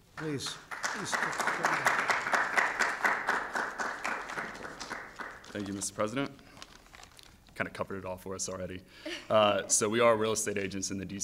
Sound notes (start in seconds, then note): 0.1 applause; 9.3 laughs